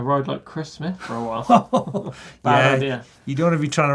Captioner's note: laughing